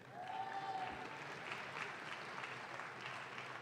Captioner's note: audience claps